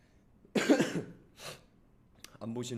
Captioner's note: cough